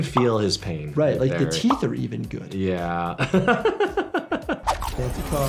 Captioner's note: laughs